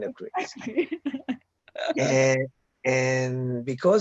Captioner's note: laughing